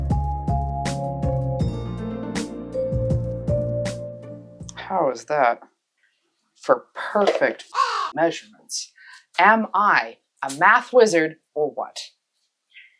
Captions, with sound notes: How is that for perfect [CAW]ing measurements? Am I a math wizard or what?